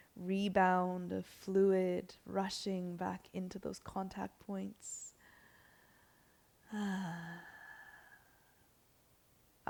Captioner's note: sighs